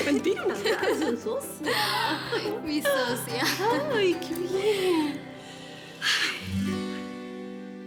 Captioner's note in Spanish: Risas